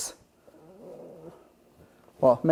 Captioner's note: moans